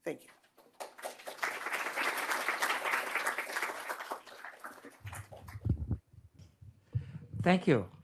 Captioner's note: applause